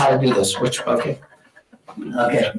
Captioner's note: audience laughing